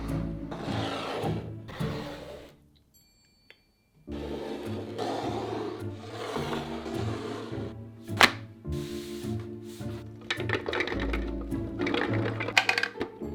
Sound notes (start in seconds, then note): 10.2 walnuts dropping